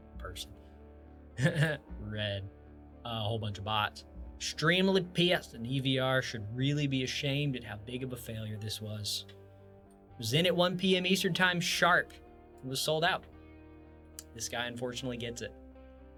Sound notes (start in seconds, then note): 1.4 laughs